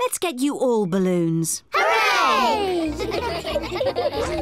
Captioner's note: giggling